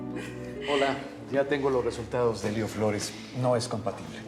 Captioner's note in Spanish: risas